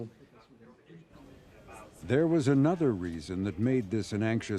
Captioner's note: murmurs